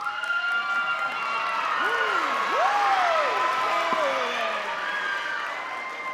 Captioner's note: audience cheering and clapping